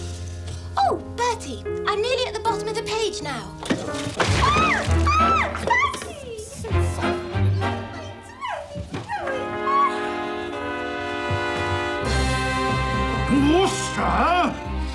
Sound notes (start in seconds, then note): 3.8 squealing